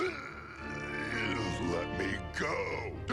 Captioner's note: grunts